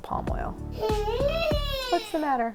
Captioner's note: baby noises